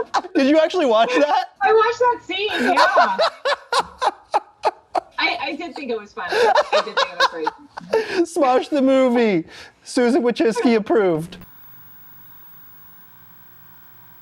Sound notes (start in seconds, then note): 3.7 laughs